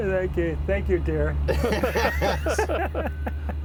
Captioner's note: laughs